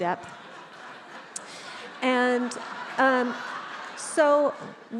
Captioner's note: attendees laughs